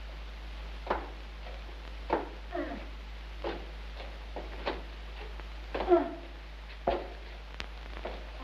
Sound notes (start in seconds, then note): 2.7 mother moans